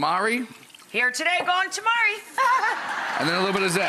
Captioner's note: giggles; audience laughs